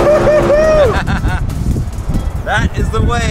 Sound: laughs

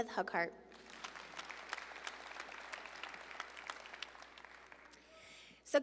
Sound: audience applauding

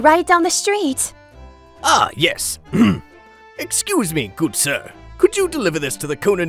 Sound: clears throat

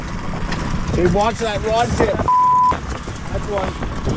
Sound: beep

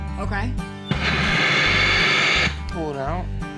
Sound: machine running

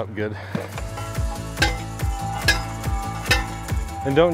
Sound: post pounder clanging

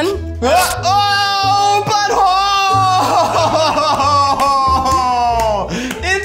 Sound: screams

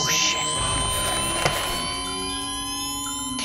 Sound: defibrillator charging

